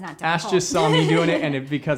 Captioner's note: laughs